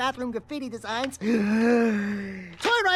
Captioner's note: biiiig breath